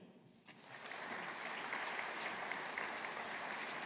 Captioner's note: audience applauding